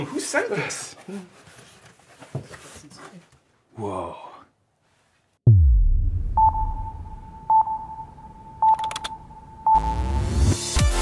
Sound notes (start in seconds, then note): 6.4 timer ticking